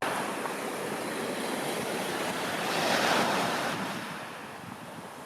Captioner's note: waves crashing